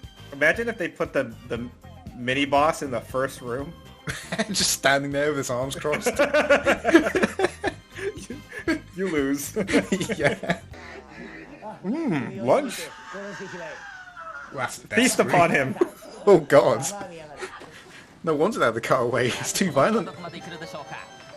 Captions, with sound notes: Imagine if they put the mini boss in the first room! Just standing there with his arms crossed?! You lose! 'MMMM LUNCH!' *Contestant's terrifying screams* Feast upon him! Oh god! No wonder they had to cut away. It's too violent!